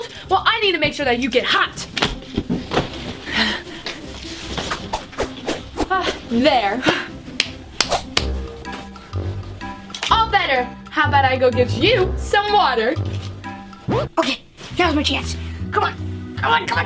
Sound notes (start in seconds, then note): 4.6 swift swishes; 7.7 clapping hands together